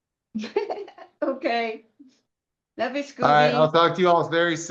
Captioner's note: laughter